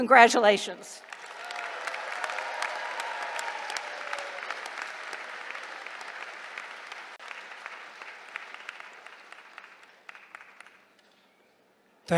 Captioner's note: applause